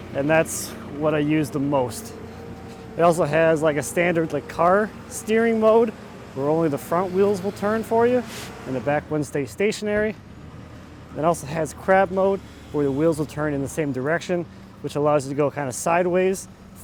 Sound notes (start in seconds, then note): none